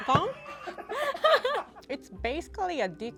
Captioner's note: laughing